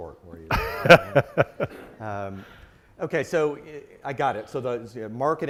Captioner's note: laugh